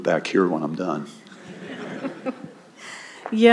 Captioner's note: laughter